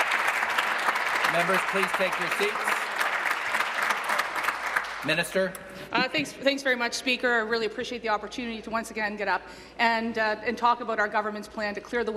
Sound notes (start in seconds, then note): 0.0 applause